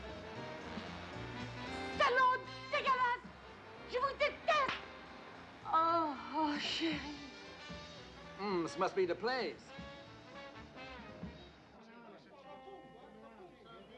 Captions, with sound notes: (YELLING IN FRENCH) This must be the place!